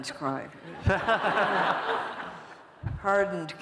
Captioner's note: laughter